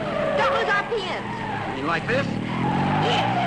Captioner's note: tires screeching